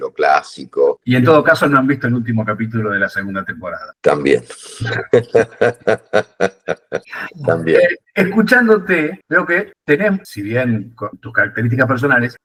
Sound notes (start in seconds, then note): 4.8 laughs